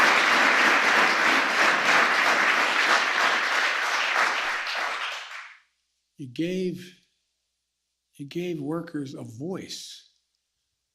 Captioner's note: applause